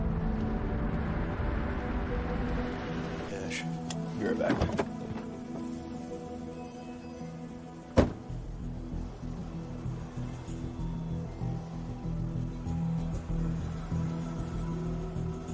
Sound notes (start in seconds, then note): 7.8 tense music; 7.9 door closes